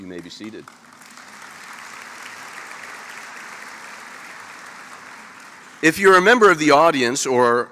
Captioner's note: applause